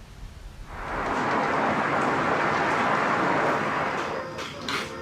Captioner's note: wind blowing